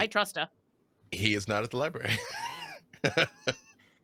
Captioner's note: laughs